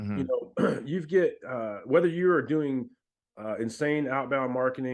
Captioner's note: clears throat